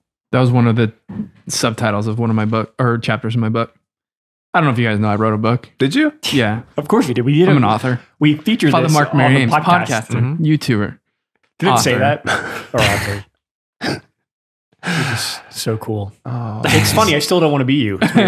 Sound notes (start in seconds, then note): 11.6 friars guffaw